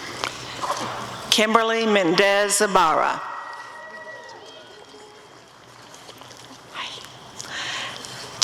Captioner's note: applause and cheering